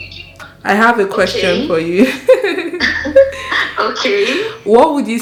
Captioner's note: both laughs